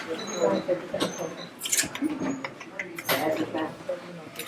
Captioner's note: chatter in restaurant